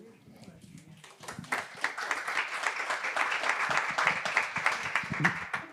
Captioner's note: audience applauding